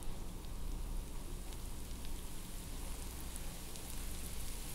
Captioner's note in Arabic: البيض يغلي